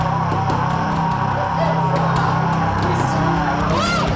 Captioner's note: Chemock roars